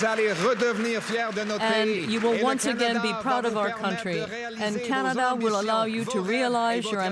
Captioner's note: applause